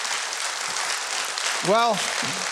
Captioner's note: audience applauding